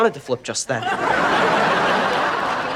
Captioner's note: laughing